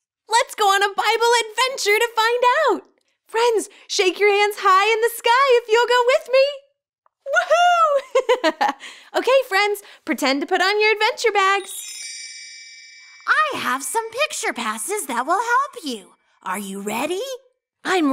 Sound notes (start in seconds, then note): 7.3 girl giggles